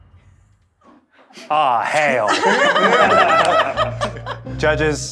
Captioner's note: everyone laughing